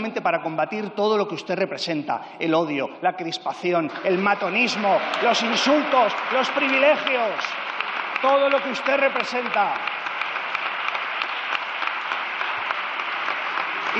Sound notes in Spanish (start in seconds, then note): 8.5 Aplausos